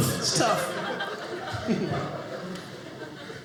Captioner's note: audience laughing